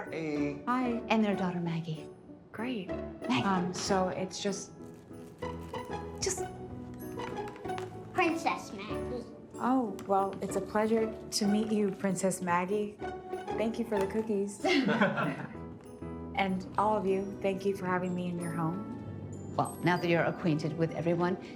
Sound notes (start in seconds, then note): 5.9 gentle jaunty music; 14.6 Will laughing